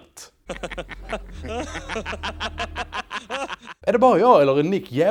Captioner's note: laughs in norwegian; laughs in danish